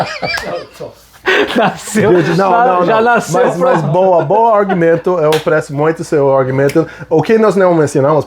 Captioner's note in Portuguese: risadas